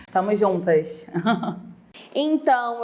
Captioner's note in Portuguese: risos